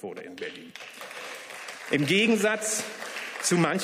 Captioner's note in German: Beifall